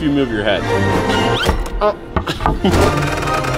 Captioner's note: laughs; bright music